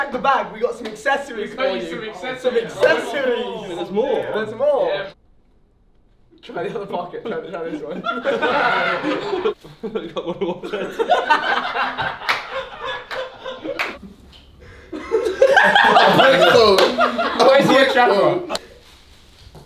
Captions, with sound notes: - Check the bag. We got some accessories for you. - We got you some accessories. - Some accessories. - There's more? - There's more. Try the other pocket. Try this one. (all laugh)